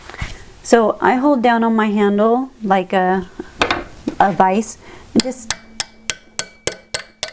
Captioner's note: taptaptaptaptaptaptaptap